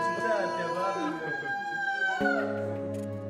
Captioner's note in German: Lautes Wehklagen